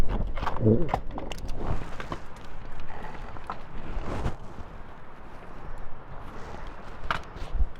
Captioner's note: rock grinding